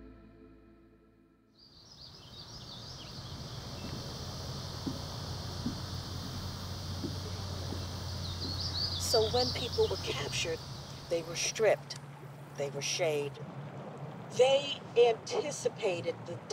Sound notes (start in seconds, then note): 1.3 birds chirp